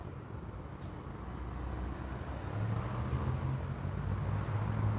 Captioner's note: engines whirring